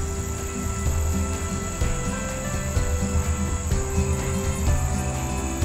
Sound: idyllic guitar music; tiny trains squeaking

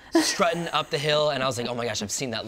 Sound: laughs

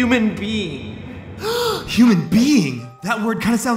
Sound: gasp

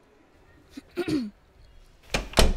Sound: clears throat

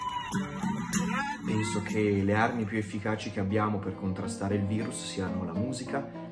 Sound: speaking foreign language

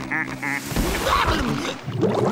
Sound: laughing; grunting

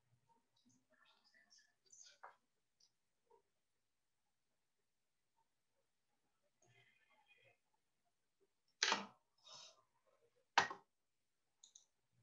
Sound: silence

